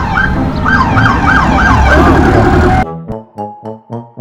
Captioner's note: car engine revving; siren wailing; playful music continues